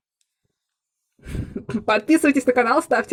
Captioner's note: giggle